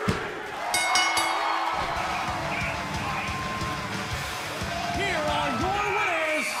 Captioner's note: bell ringing